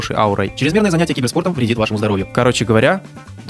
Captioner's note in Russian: быстрым голосом